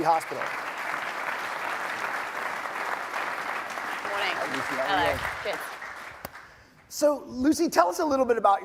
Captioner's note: applause